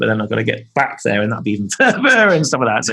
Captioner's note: laughing